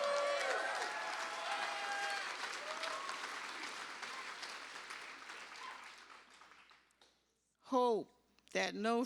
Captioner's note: cheers and applause